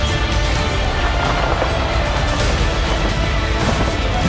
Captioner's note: yelling and explosions